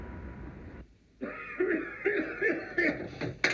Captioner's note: man coughing